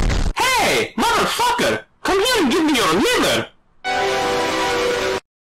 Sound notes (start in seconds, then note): 3.9 earrape as he rips your liver out